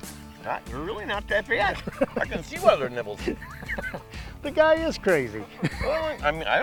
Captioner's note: laughing